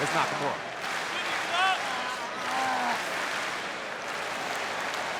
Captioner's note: audience clapping